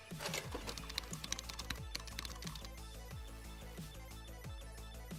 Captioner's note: keyboard clicks